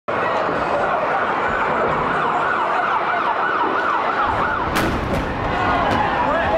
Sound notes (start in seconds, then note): 0.1 sirens wail; 4.6 plane crashes